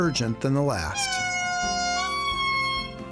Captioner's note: high-pitched calling